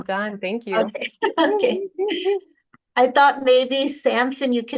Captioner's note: both chuckle